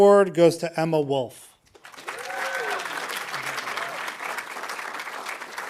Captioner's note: audience applauding